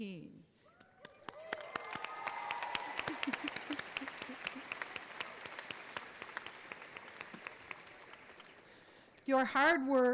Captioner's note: applause and cheers